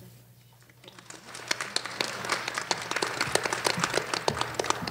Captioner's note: applause